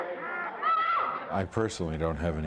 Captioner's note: screams